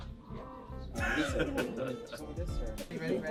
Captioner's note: laughing